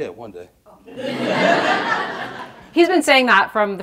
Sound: audience laughing

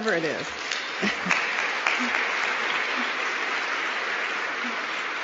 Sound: applause

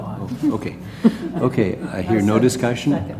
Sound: laugh

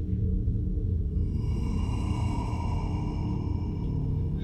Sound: low breathing

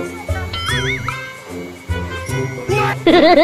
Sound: trying to hold back his laughter

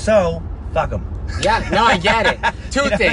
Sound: laughs

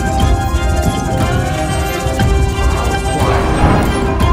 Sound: wind blowing

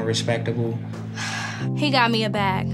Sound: sighs

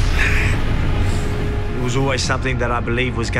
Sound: sighs with frustration

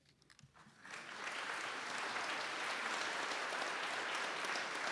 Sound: audience applauds

